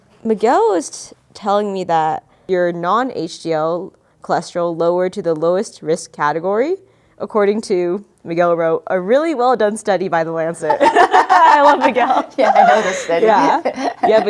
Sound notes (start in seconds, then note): 10.6 laughs